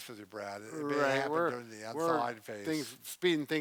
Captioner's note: both chattering